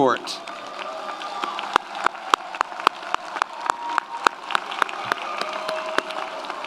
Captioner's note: audience applauds; audience cheers